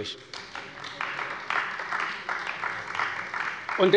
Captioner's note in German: Beifall bei Abgeordneten der CDU